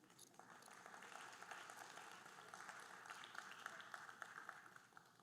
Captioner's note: audience applauding